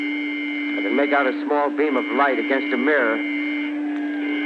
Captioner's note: beeping and sirens